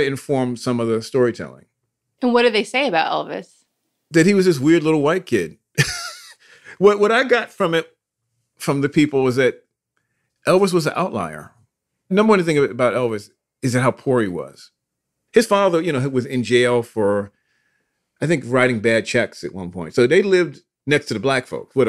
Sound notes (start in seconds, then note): 5.8 laughs